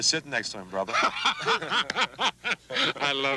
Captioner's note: both laugh